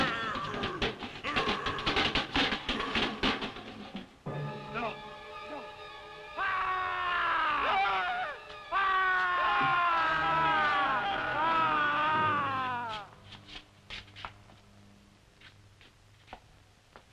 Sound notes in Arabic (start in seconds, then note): 6.3 برونو يصرخ; 6.3 كروب يصرخ; 8.9 كلاهما يصرخ